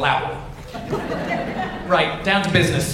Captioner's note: audience laughs